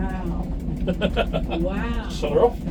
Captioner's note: laughing